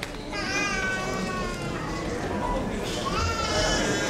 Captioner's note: crowd chatter